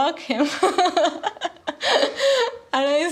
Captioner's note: laughing